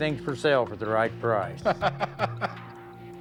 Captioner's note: Rick laughing